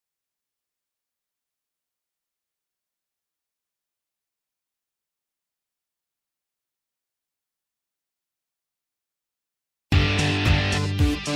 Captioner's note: silence